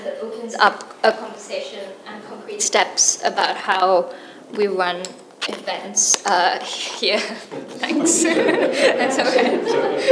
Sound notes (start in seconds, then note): 7.4 chuckles; 7.5 audience laughing